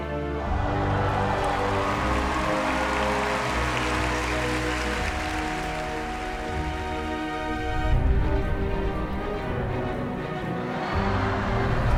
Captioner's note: applause